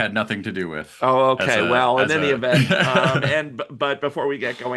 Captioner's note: laughs